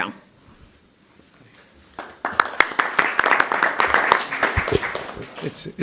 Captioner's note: applause